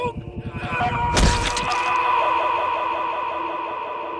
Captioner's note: David shouting